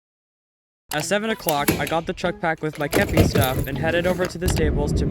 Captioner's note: voiceover